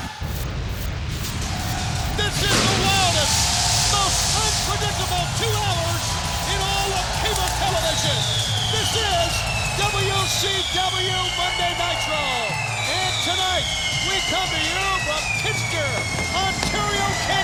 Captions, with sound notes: (audience cheering) This is the wildest, most unpredictable two hours in all of cable television. This is "WCW Monday Nitro." And tonight, we come here from Kitchener, Ontario, Canada,